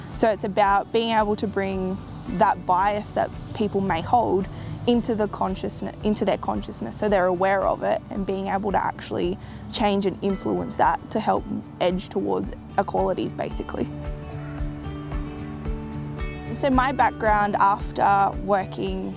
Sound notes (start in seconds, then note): 13.8 birds calling; 14.1 cheerful acoustic music